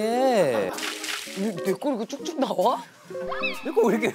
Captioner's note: pouring